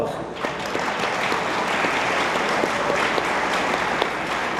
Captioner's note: attendees applauding